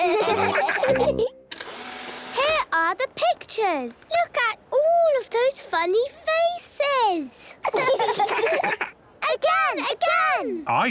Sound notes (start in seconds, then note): 1.5 whirring; 7.6 children laughing